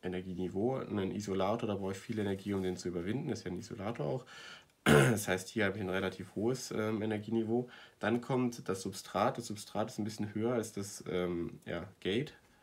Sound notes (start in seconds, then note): 4.8 cough attack